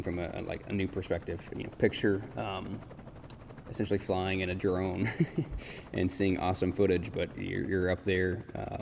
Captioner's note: laughs